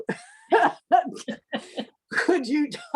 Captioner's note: laugh